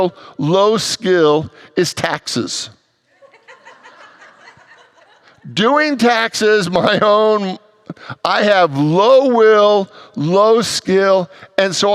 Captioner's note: congregants laugh